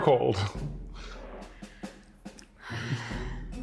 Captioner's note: sighs